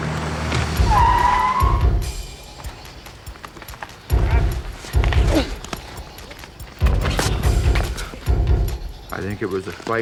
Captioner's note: tires screeching